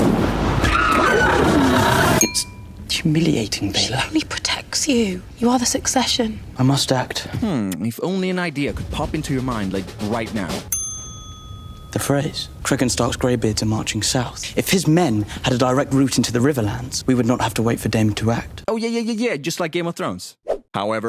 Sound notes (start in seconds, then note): 10.7 ding